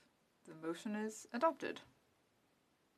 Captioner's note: speaking French